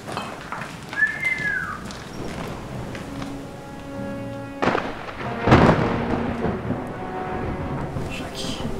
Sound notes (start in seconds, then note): 0.8 mouth whistling